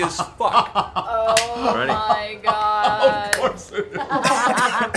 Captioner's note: laughing